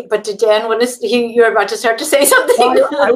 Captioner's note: laughs